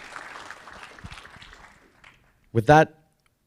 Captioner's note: audience applauding